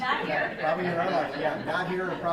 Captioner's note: laughing